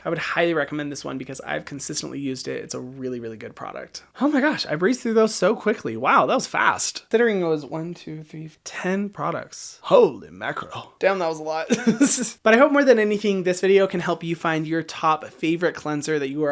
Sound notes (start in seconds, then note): 11.7 laughs